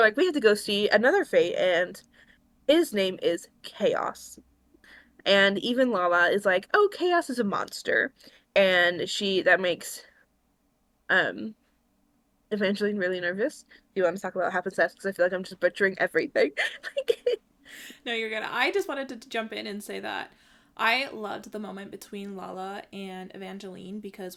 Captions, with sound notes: we have to go see another Fate and his name is Chaos and even Lala is like oh Chaos is a monster and she... that makes.. um Evangeline really nervous. do you want to talk about what happens next? cuz I feel like I'm just butchering everything. (laughs) No you're good, I just wanted to jump in and say that I loved the moment between Lala and Evangeline because